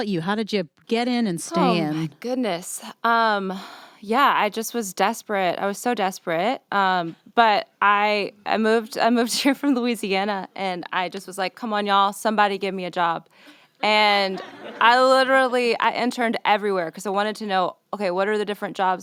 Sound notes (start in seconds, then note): 14.2 laughter